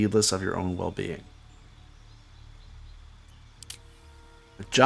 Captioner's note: silence